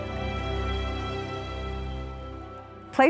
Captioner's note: stream trickles softly